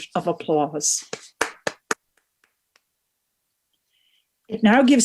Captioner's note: all clapping